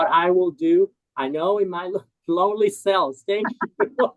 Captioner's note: laughs